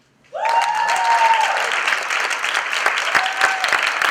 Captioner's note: applause